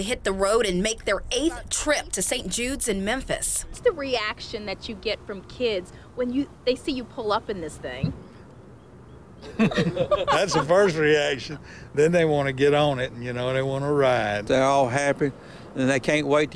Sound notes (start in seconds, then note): 11.3 laughter